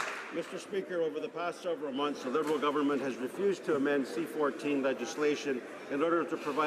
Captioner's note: applause